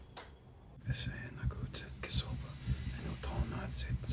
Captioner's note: chanting in foreign language